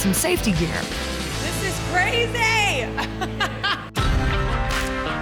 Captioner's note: laughs